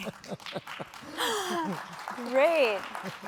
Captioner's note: laughing; audience applauding